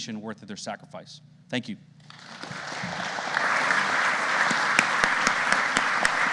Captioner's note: audience applauding